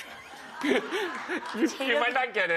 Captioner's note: laughter; laughs